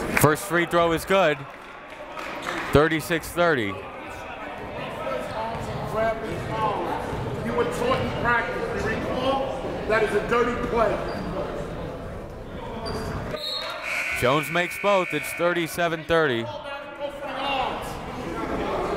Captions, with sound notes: First free throw is good, 36-30. (whistle) (buzzer) Jones makes both, it's 37-30.